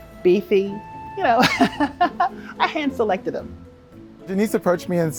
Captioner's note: laughs